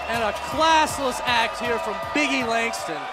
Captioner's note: crowd cheering